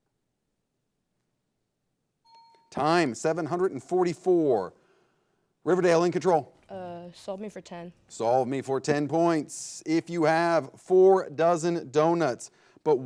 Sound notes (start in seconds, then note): 2.2 bell chimes